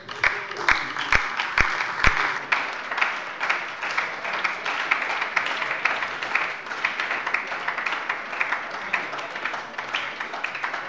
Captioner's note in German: Beifall bei der LINKEN und der SPD